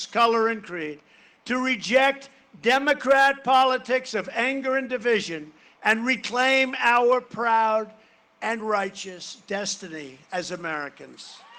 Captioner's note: cheering and applause